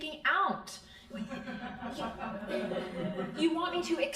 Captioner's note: crowd laughing